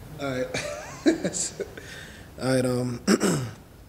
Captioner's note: laughing